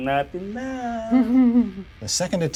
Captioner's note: chuckles